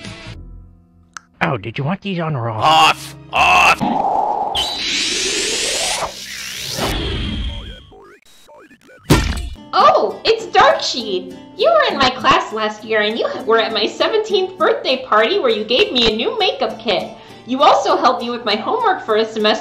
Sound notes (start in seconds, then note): 1.1 click; 3.8 whoosh; 9.1 thunk